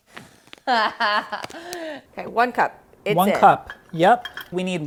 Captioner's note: laughing